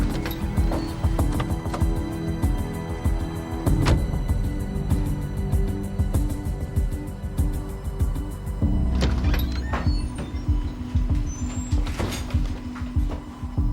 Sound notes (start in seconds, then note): 3.7 door clicking; 8.8 door creaking